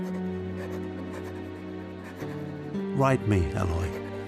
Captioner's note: pen scratching